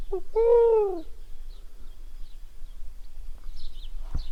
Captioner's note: owl calls